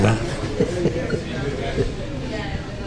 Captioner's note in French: rires